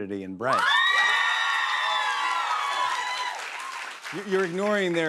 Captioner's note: cheers and applause